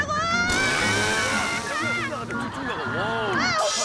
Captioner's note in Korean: 스피드 부스트 부아아아앙